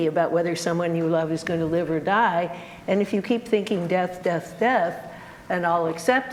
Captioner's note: none